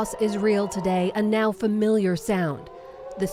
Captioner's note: rocket siren